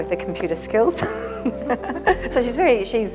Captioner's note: laughter